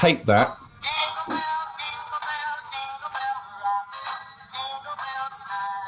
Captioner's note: toy's tinny speaker